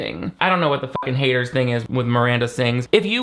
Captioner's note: beep